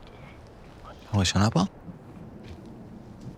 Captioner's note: speaking Hebrew